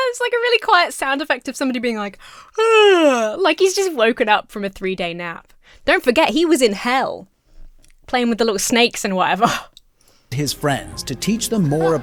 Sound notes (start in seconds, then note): 2.5 yawns